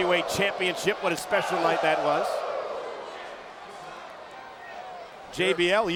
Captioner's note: crowd exclaiming